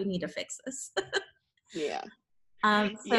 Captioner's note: chuckles